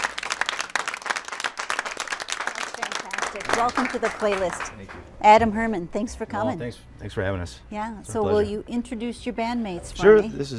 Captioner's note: applause